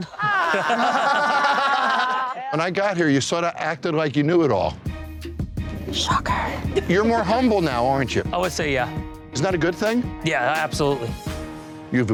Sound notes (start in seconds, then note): 0.0 everyone laughs; 4.8 tense music; 6.4 laughs